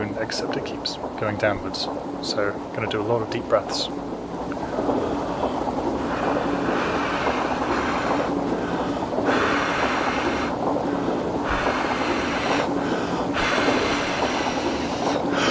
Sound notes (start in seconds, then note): 6.0 exhale; 6.0 inhale; 9.3 exhale; 11.4 inhale; 13.5 exhale